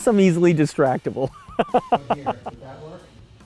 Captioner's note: chuckles; laughs